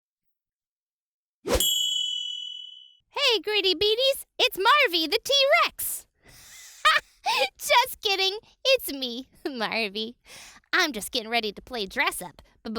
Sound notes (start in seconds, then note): 0.6 air whooshing; 1.6 chime dinging; 6.5 laughs